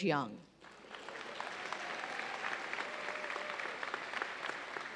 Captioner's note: audience applauds